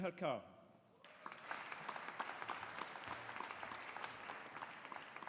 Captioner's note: audience applauding